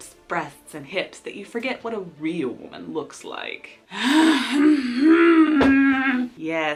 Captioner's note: sighs